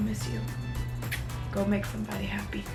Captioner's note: lips smack